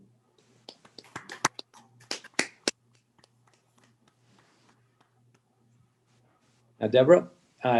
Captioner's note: applause